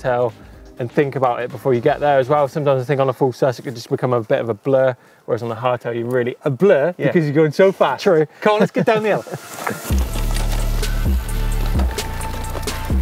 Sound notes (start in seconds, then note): 8.5 laughs; 8.8 lively action music